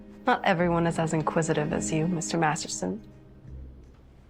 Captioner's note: none